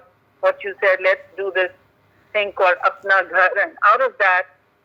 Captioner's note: speaks in Urdu